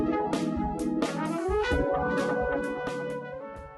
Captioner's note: tone